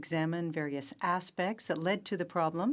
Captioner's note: speaking in French